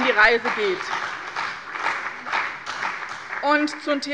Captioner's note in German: Beifall bei dem BÜNDNIS 90/ DIE GRÜNEN und der CDU